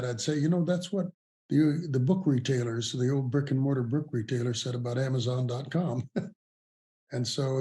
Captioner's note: chuckles